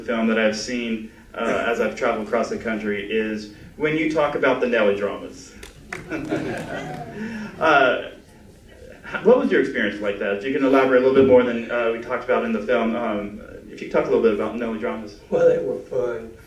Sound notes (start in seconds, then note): 5.6 applause; 5.9 laughter